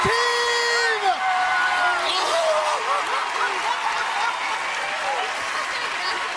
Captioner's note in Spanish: aplausos